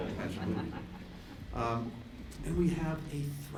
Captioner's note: laughter